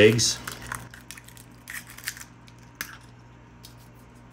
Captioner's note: crunching